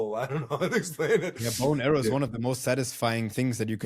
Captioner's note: laughs